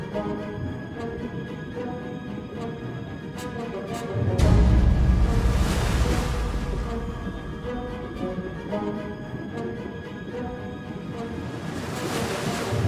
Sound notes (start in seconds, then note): 6.2 waves crash